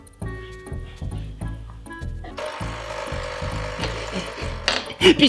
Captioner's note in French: Bruit de cafetière